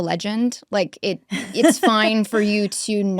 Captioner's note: laughs